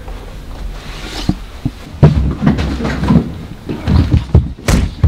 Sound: sounds of a struggle

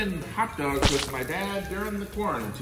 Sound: hot dog plopping

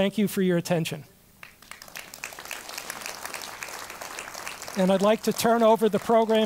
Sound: applause

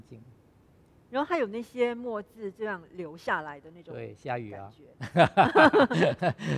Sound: laughs

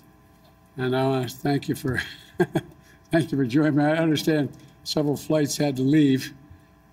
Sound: laughs

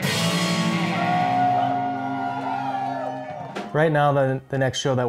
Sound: cheering and applause

